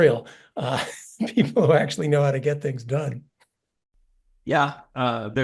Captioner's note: laugh